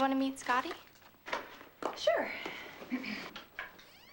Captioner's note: clrs throat